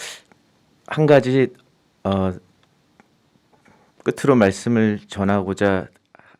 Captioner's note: speaking in Korean